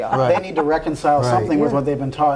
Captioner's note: laughs